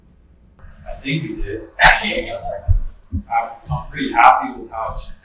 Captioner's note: audience laughs